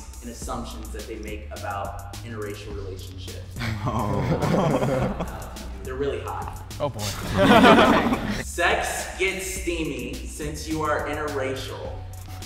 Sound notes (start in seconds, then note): 3.6 uncomfortable laughter; 7.0 nervous laughter